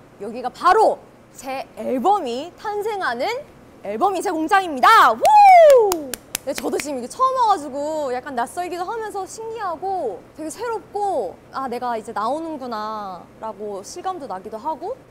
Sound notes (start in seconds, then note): 5.6 applause